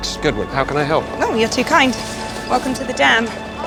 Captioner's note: voiceover